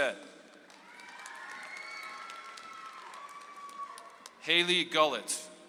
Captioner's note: audience applauds